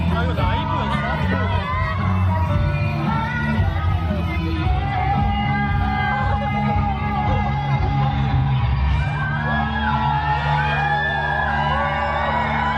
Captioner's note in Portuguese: Aplausos